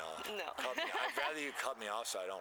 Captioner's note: laughter